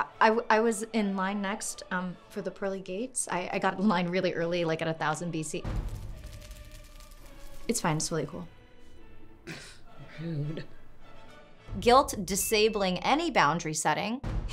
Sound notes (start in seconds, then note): 5.6 fire crackling; 6.0 drum echoing; 14.2 silly xylophone music